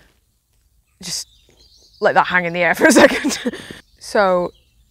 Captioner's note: laughs